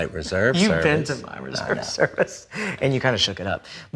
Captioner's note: laughs